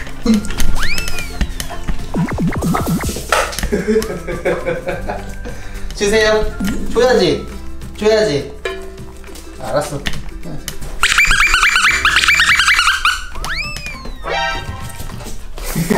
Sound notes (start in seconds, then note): 11.0 beep beep